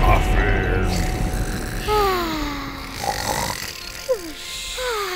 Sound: snoring sounds

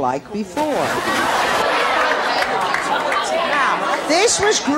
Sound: audience chattering

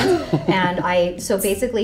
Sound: laughing

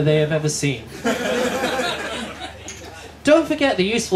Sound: laughter

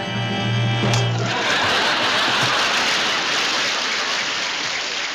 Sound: audience laughs and applauds

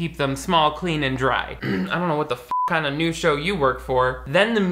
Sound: beep

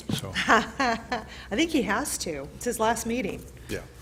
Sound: laughs

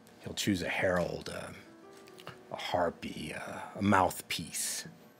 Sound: none

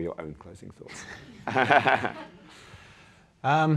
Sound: chuckling

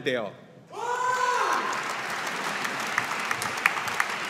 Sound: audience applauding

